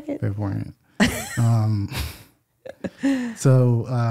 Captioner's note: laughing